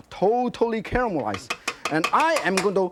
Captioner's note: chopsticks banging